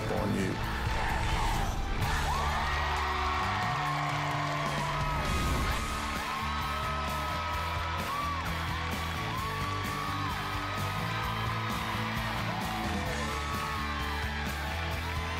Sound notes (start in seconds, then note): 2.5 crowd chanting "dr. phil!"; 5.2 cheering and applause